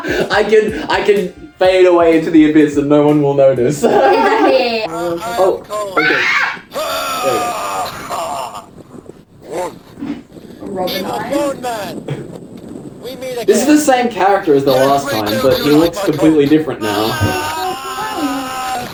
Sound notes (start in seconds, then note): 0.0 laughs; 3.8 laughs; 6.6 groans, stutter; 16.8 cries out